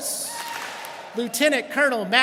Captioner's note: students clap and cheer